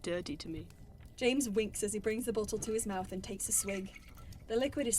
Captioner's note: drink swishes